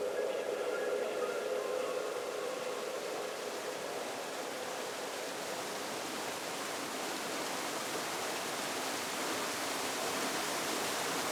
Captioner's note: rushing water